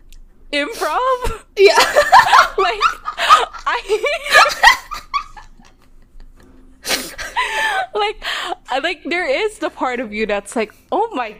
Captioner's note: laughing; laughing